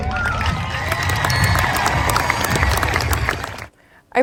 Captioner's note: audience cheers